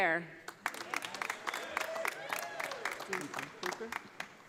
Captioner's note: audience applauding